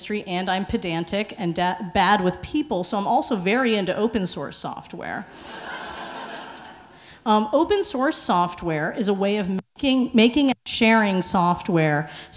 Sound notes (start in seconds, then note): 5.4 audience laughing